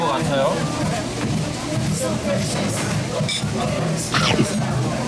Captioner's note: sniff